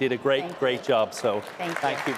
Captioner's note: cheers, applause